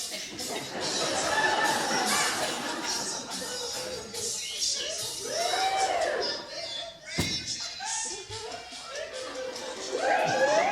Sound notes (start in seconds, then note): 0.1 audience laughter; 7.4 audience whoops, whistles and laughter